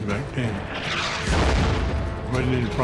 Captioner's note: shell exploding